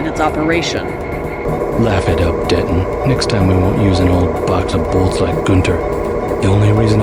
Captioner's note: crowd cheers